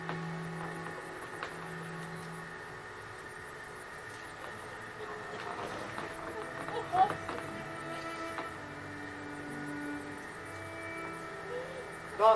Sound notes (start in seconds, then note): 0.0 slow, sad music; 6.2 Marian weeps; 6.2 slow, sad music